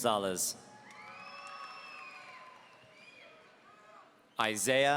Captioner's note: audience cheering